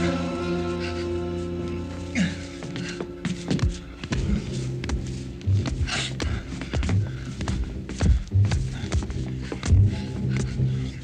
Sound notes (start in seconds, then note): 2.1 grunting; 6.8 foreboding instrumental music